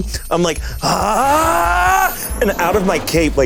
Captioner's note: Koda grunting